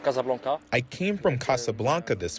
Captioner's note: through translator